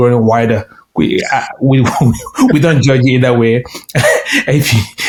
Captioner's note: laughing